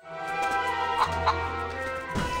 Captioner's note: chicken clucks